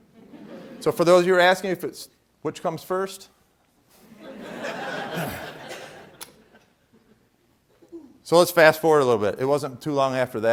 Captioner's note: laughter